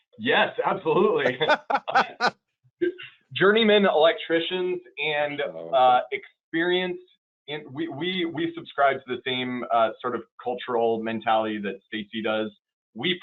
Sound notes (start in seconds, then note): 0.0 laughing